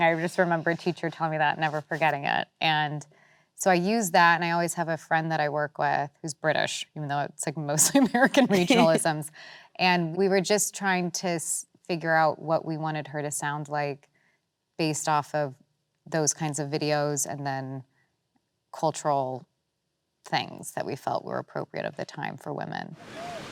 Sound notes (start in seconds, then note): 8.2 laughs